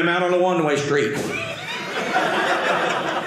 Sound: audience laughing

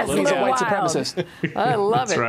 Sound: laughter

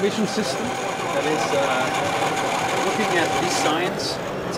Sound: wheels spinning

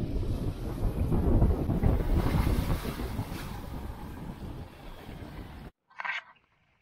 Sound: heavier wind, water splashing sounds louder; sounds of wind picking up

